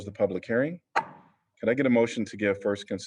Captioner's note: gavel sound